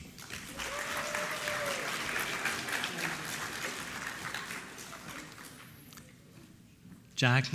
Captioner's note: applause